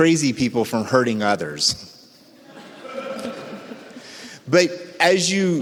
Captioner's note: audience laughs